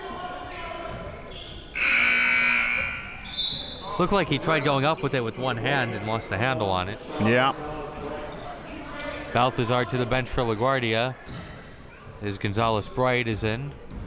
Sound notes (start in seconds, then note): 1.7 buzzer ringing; 1.7 whistle blows